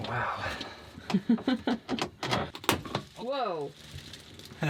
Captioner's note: chuckling